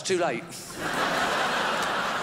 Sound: crowd laughs

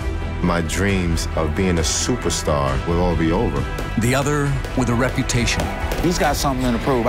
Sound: none

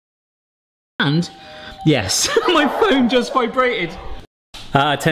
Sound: laughing

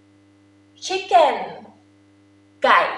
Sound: talking in foreign language

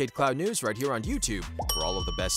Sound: bell chimes

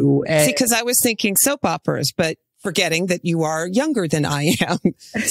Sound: laughs

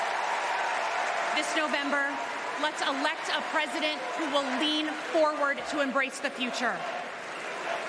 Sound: cheers and applause

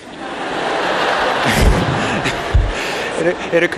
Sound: laughter

